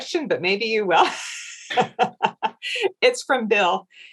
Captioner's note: laughs